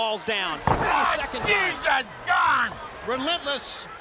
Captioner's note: crowd chatter